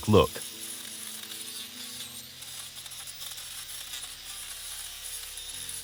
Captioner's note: angle grinder whirring